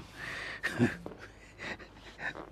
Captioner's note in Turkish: Gülme sesi